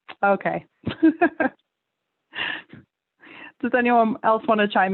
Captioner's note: panelists laughing; laughs